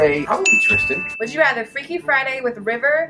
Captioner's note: bell dings